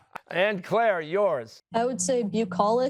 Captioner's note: laughs